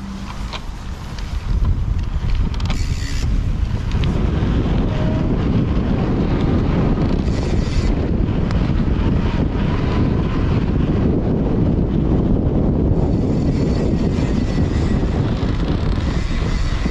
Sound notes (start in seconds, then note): 1.9 gears whirring; 3.2 air whooshing; 6.2 gears whirring; 8.8 air whooshing; 12.9 gears whirring